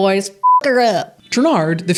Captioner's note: beep